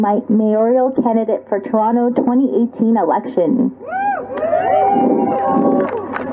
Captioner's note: cheers applause